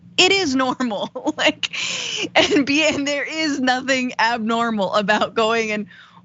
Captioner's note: laugh